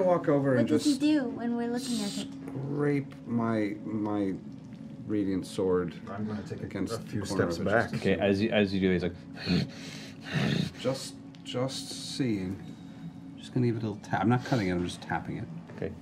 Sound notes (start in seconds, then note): 10.2 growling